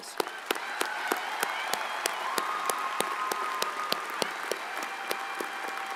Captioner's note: audience cheers and applauds